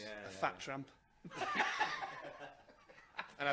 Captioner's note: laughter